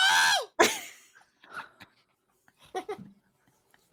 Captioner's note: laughs